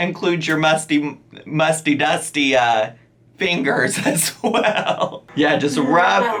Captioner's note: laughs